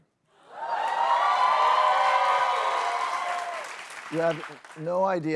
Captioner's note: cheers and applause